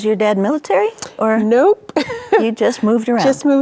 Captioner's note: chuckles